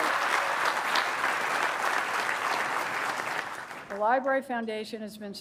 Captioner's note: applause